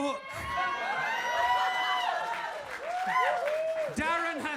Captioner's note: audience cheers and claps